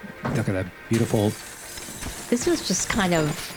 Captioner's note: glass shattering